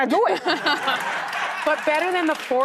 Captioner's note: audience laughing